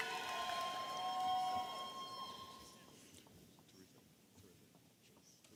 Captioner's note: audience applauding and cheering